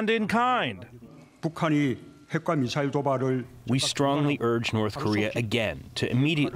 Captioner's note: through translator